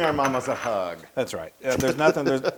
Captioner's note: laugh